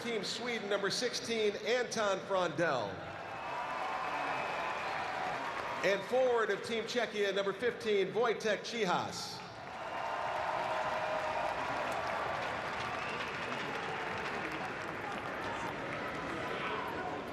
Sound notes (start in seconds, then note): 0.8 cheering; 4.5 cheering; 11.3 cheering and Applause